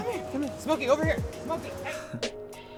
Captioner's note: laugh